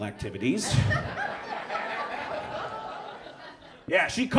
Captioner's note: audience laughs